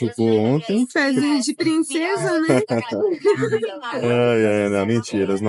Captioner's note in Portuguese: risos